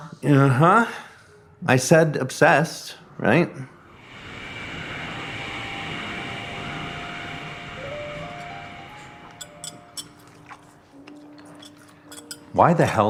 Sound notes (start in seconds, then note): 3.8 dissonant whoosh; 7.7 light jazz piano; 9.3 cutlery clinking; 10.0 chewing